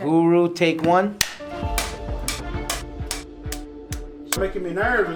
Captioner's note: clapperboard clacking